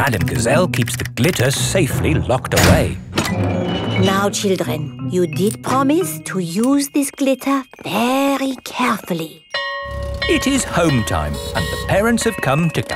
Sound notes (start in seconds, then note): 8.9 school bell ringing